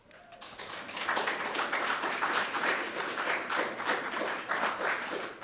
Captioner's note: audience applauding